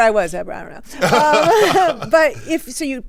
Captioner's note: everyone laughs